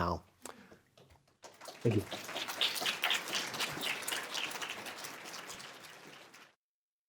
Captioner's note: applause